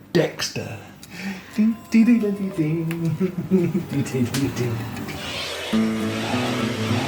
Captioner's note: Hums Dexter theme tune